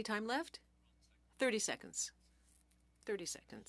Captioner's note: speaking French